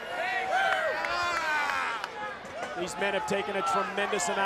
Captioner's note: applause